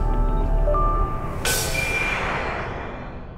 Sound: spaceship noises

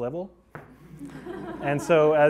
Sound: class laughing

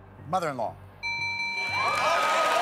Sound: bell rings; cheers and applause

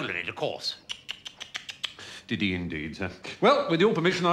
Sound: tuts

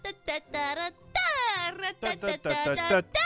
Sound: Tina continues to hum; host and other players join in humming the song

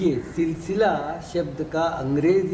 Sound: in Hindi

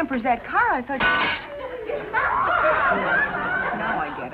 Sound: glass shatters

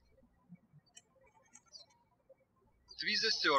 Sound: birds chirping

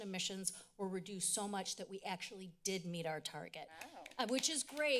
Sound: applause

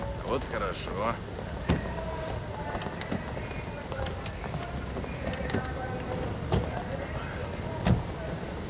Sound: plane noises

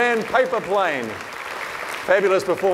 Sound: audience clapping

